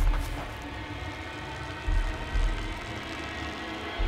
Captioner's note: urine pattering